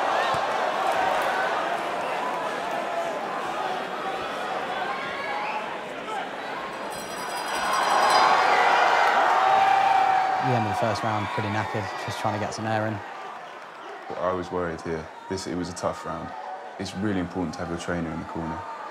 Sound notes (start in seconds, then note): 6.6 bell rings